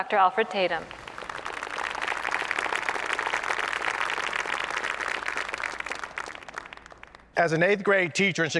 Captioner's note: applause